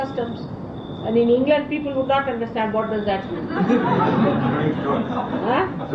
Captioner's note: laughter